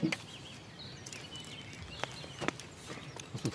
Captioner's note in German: Vogelzwitschern